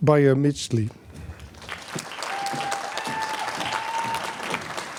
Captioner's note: applause, cheering